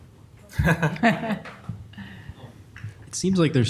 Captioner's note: laugh